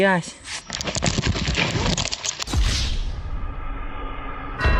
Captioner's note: falls